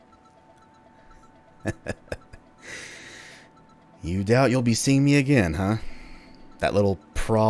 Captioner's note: sly chuckle